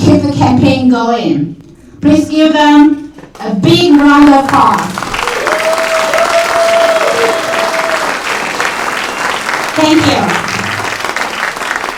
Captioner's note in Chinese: 掌声